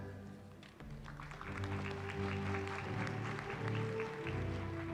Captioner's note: applause